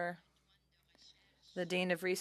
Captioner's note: speaking in French